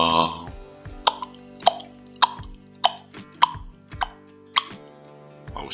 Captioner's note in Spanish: ti, tac, tic, tac